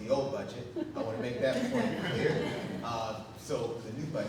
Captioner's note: audience laughing